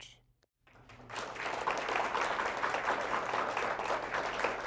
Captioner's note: applause